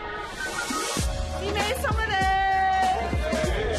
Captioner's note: speaking in Japanese